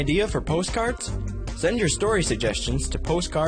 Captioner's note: voiceover